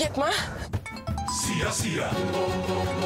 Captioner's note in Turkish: Telefon çalıyor